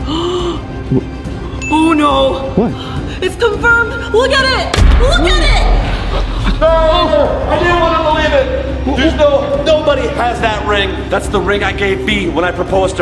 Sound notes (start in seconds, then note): 0.0 gasps; 1.6 diamond dings